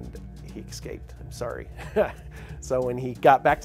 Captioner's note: laughs